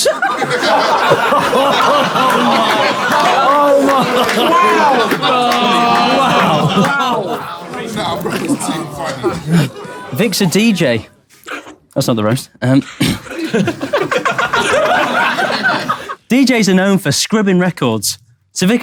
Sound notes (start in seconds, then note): 0.2 people in room laughing and exclaiming; 12.9 people in room laughing